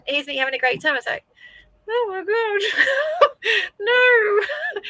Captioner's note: laughs